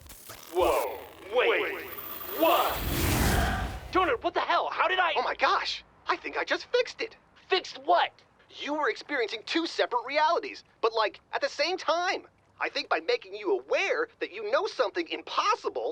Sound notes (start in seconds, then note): 0.0 glitching; 2.7 zapping, glitching stops